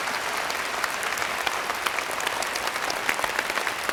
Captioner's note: applause